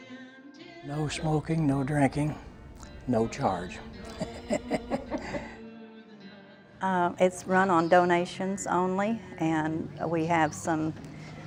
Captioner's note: laughing